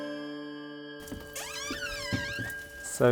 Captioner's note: door creaking